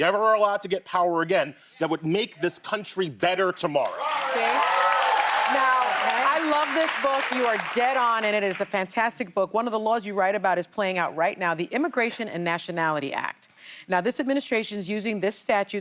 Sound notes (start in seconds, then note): 6.2 cheers and applause